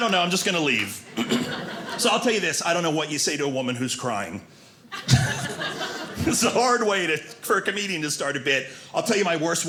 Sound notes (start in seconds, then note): 4.9 audience laughing